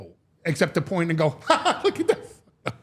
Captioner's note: laughs